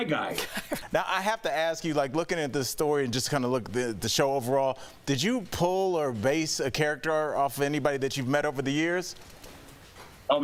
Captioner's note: laughter